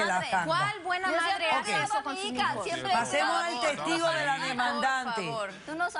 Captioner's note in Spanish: Hablan al unísono